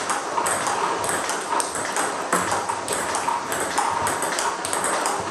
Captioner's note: ball ping pong hitting continues